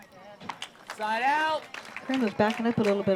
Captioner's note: applause